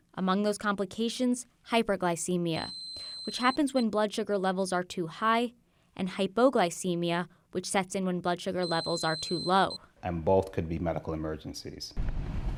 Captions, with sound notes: hypoglycemia, (tester beeping) which happens when blood sugar levels are too high, and hypoglycemia, which sets in when blood sugar levels (tester beeping) are too low. - And both could be medical emergencies. - Back on the street,